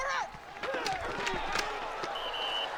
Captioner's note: grunting; whistle blows